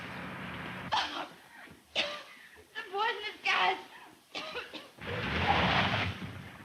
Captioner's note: coughs